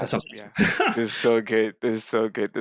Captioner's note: chuckles